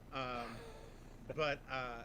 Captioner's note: laughs